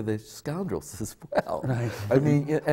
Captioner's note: laughs